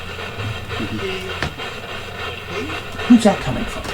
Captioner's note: radio static hissing